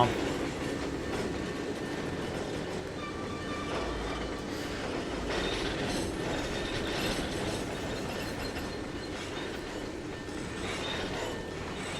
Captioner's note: train whistle